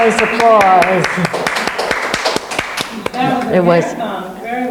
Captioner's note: claps; people clapping; woman speaks off mic